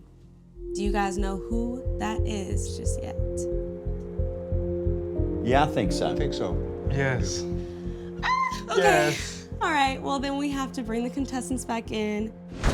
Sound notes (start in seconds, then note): 8.4 squealing